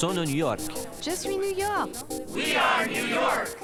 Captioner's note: French